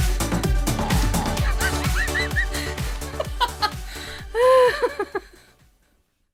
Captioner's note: laughs